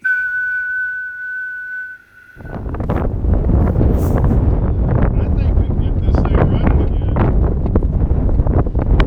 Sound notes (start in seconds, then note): 0.0 whistling; 2.3 wind rumbling